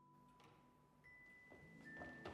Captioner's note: chair moves